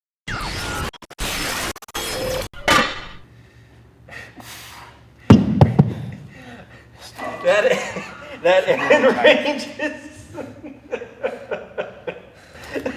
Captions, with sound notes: (intense electronic music) (man panting) (weights thumping) (laughing) That range is. (laughing)